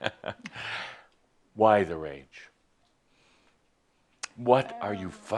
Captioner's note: Adamus chuckles